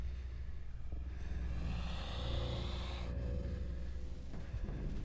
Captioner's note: spider hissing